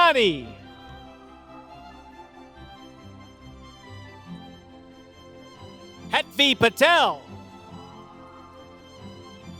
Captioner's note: applause